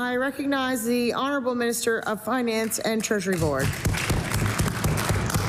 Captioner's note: applause